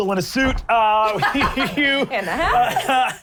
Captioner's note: laughing